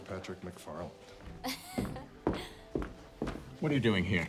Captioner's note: student laughs